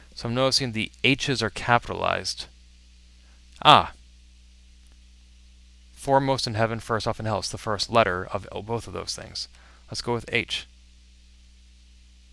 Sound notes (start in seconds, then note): none